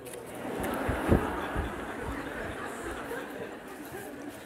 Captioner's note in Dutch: gelach